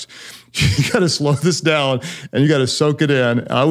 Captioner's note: chuckles